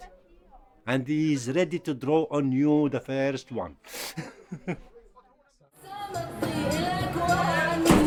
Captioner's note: laughs; israeli music